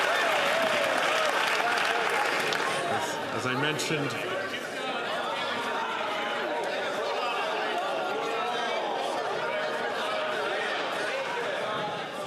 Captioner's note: some Applause